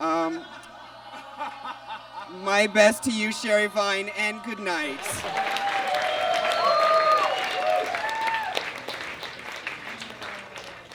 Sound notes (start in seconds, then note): 0.2 audience groans; 4.9 audience claps and cheers